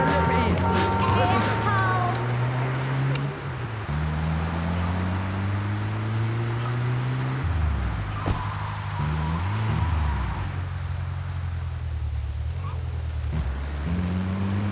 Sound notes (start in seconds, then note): 0.0 dramatic music; 0.0 horn honking; 0.9 gun firing